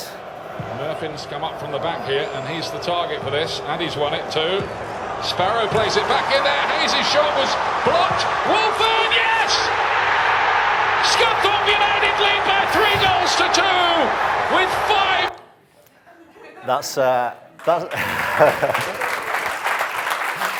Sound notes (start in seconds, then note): 0.3 crowd cheering; 4.7 crowd cheering; 9.2 crowd cheering; 17.5 audience claps